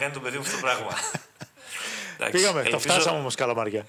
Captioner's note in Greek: γέλια